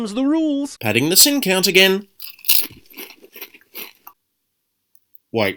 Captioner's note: crunch